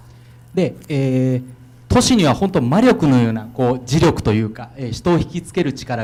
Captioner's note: speaking foreign language